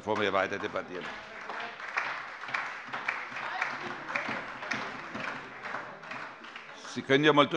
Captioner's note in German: Beifall bei der SPD, der LINKEN und der FDP